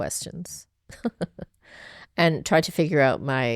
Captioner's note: laughing